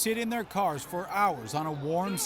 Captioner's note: cheers and Applause